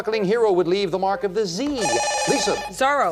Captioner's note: beep